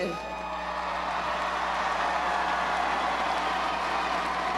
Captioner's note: crowd cheers